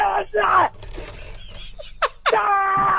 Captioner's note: Louis lies and laughs